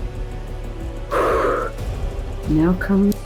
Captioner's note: exhales